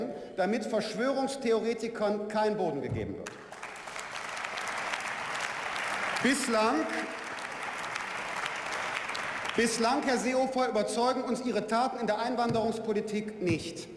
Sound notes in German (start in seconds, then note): 3.2 Beifall